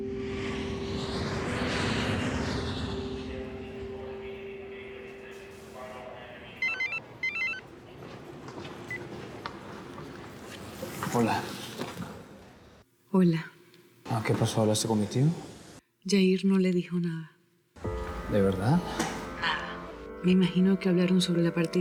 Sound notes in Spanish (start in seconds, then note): 6.6 Suena el celular